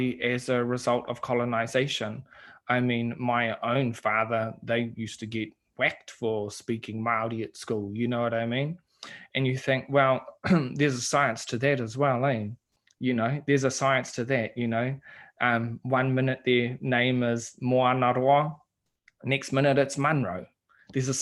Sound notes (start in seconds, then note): 10.4 clearing throat